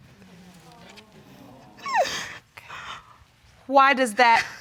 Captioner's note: sobbing